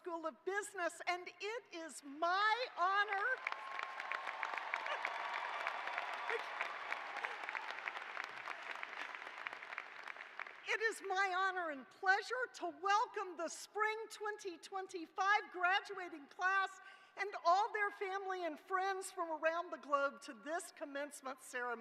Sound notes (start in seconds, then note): 7.4 cheers and applause